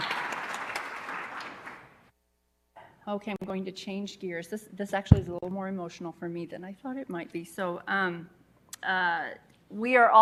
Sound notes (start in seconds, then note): 2.1 applause